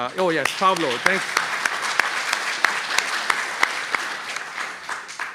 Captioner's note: applause